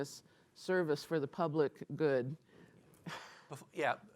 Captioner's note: laughs